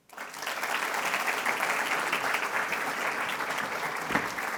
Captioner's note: attendees applauding